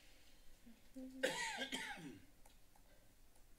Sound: coughs

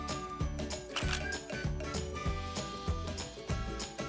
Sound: camera shutters

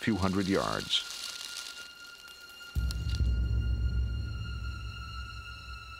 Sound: leaves rustling

